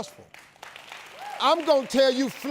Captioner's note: audience applauds